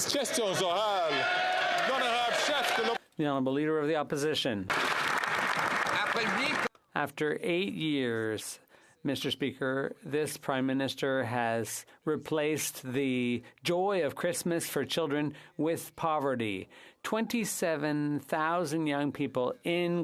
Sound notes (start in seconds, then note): 2.4 some Applause; 7.1 speaking French